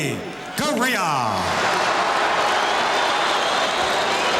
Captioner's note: audience cheering